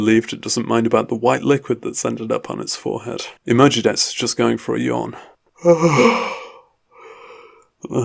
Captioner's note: yawn